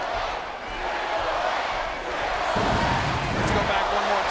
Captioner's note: applause